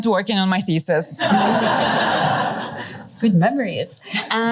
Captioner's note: laughter